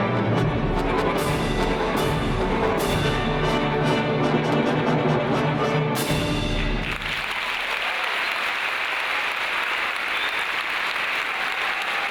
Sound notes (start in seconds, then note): 6.6 audience applauds